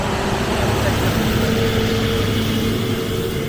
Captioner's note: road traffic